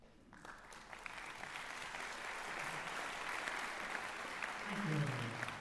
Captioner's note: applause